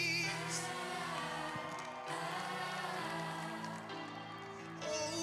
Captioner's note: applause